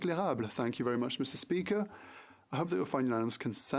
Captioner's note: speaking French